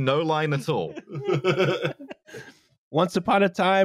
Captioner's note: laughter